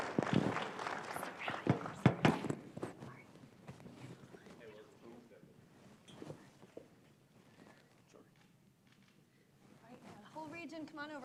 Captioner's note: applause